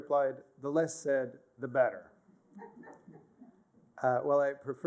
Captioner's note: laughter